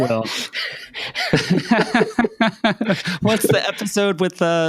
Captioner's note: laughing